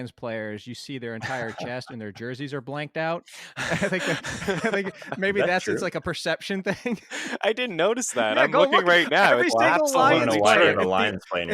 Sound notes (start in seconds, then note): 3.5 laughs; 7.0 laughs